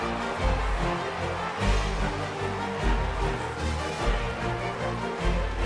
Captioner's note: uplifting music continues; crowd applause and cheers continue